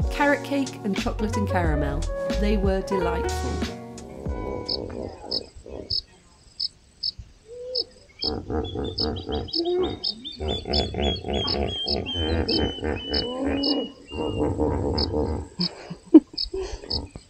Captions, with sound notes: Carrot cake and chocolate-and-caramel, they were delightful. [loud grunting noises]